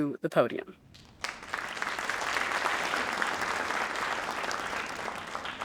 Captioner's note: audience applauding